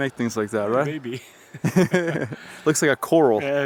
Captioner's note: laughs